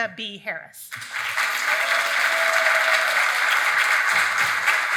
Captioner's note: audience clapping